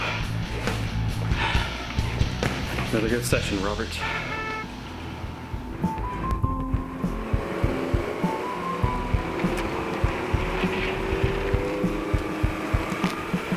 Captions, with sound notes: - Another good session, Robert. (car honks) (upbeat music)